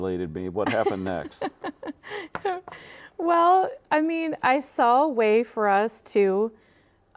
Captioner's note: laughing